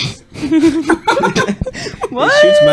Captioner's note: laughter